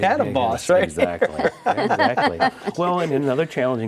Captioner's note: laughs; group laughs